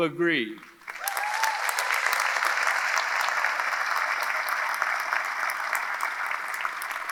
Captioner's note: audience applauding; audience cheering